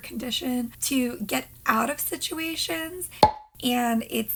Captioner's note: popping